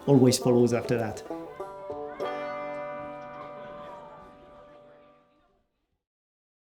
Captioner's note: people chatting; playful music